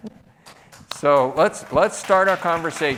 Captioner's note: applause